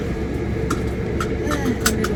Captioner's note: sighs